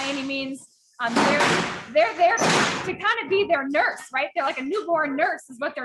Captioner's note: feed rattling